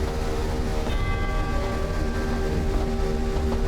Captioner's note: clock chimes